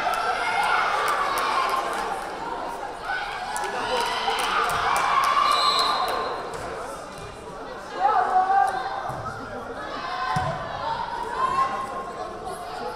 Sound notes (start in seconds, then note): 5.5 whistle blaring